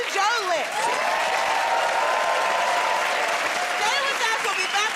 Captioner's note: cheers and applause